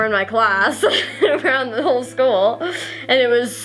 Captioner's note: laughs